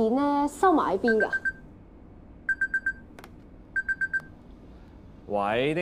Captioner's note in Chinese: 電話鈴聲